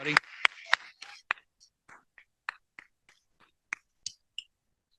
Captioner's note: applause